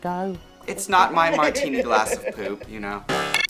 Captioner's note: Baga chuckles